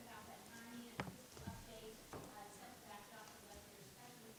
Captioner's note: speaks faintly